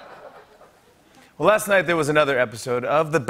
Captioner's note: laughter; normal voice